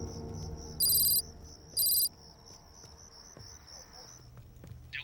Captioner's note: crickets chirping; letters clicking